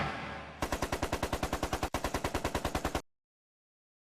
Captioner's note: machine gun firing